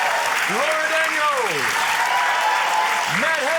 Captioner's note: cheering, applause